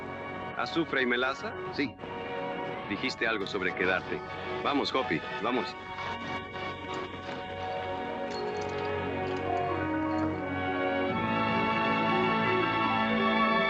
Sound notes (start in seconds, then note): 6.3 hoppy chuckles; 9.6 evocative music